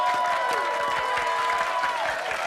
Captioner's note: crowd cheering